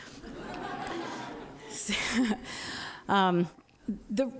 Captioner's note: audience laughing